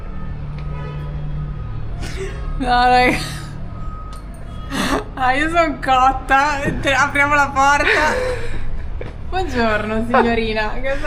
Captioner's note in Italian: risate